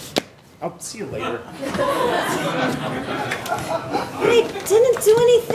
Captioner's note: audience laughing